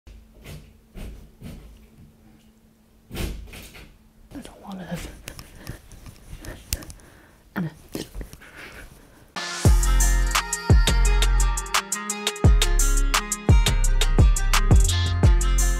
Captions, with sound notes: (wall banging) - There's a lot of (hand thumping) and a (upbeat music)